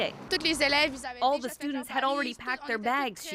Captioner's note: speaking Foreign Language